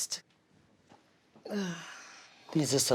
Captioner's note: sighs